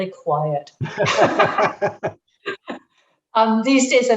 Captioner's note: both laughing